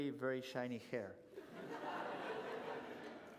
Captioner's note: laughter